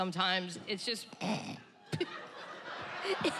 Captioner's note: Lewis grunts; chuckles